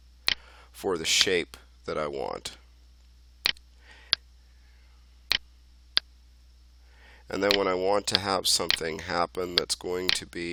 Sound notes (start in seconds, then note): 3.4 clicking sounds